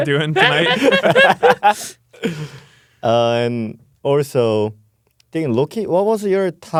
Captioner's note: laughs